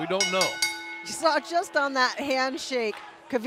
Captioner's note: bell ringing